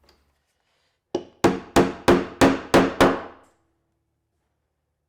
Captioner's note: mallet thudding